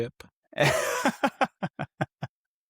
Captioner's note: laughter